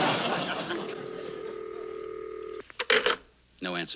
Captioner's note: line ringing